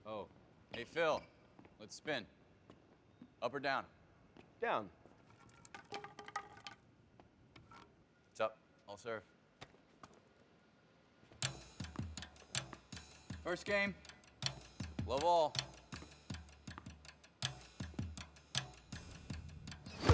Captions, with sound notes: - Oh, hey Phil. Let's spin. Up or down? - Down. (racket rattling) - It's up. I'll serve. (racket tapping) (suspenseful jazz music) First game, love all. (air whooshing)